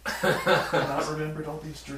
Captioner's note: laughter